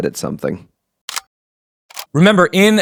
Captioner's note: camera clicking